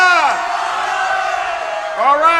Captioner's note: crowd cheering